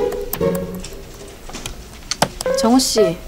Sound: scratch scratch

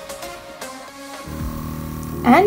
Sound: whirring sound

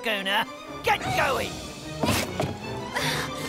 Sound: struggles

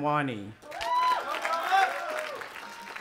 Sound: audience applauding and cheering; cheering

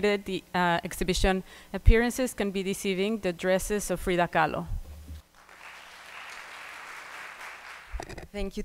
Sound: applause

